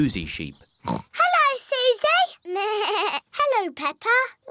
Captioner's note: oinks; bleats